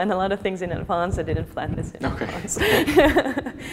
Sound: laughs

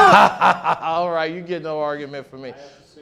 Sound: laughing

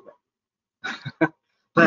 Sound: laughs

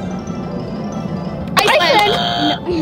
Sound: buzzes

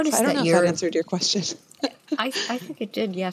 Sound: laughs

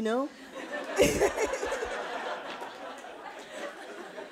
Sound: audience laughing

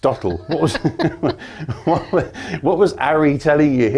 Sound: both laugh

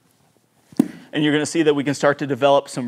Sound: golf club thudding

